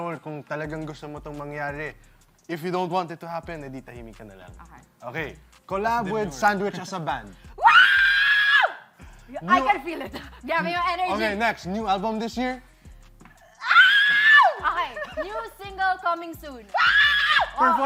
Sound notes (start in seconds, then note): 7.6 screaming; 14.4 laughing